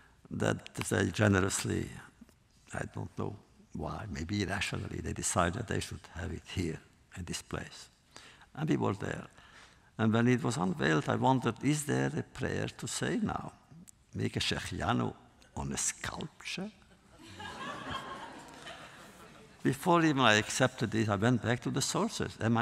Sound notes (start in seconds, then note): 16.9 laughter